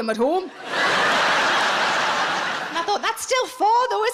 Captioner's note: audience laughing